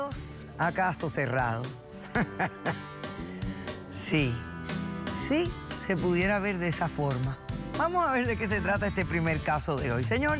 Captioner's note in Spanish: Risas